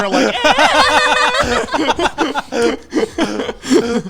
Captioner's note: screeches